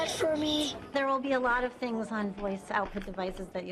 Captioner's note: voiceover